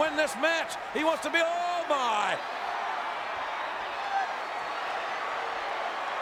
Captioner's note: crowd shouting